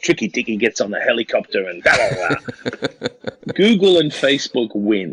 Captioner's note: laughs